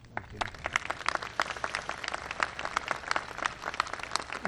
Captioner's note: applause